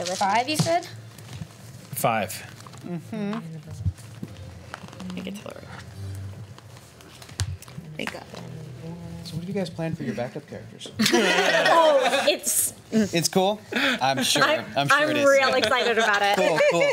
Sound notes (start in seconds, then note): 11.0 laughs